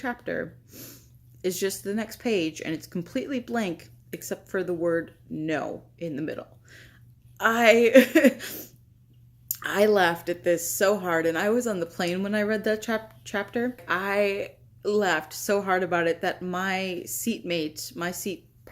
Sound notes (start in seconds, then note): 8.2 chuckle